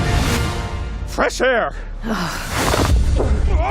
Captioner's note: disgusted sigh